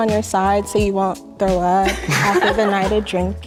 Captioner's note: girls laughing